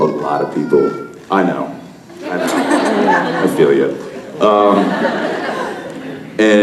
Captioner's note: baby noises